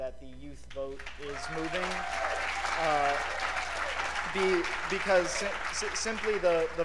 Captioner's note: cheers and applause